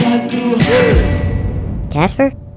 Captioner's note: kasper gasps